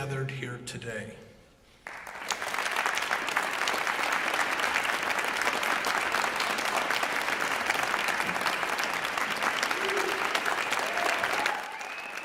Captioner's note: applause